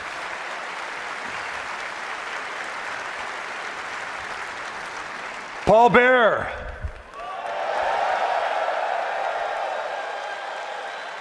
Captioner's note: applause